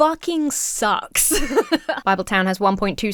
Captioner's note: Emma laughs